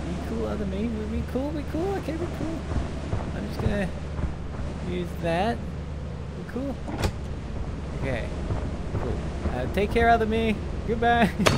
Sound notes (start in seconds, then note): 2.5 creature outside stomping about; 8.3 creature outside stomping about